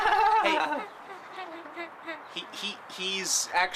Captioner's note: laughter